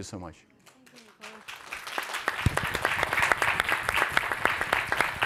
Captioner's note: all applauding